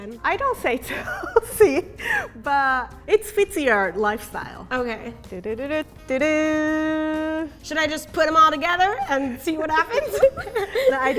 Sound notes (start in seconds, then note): 1.8 laughing; 5.6 humming a tune